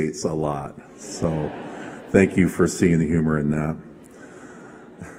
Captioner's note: laughter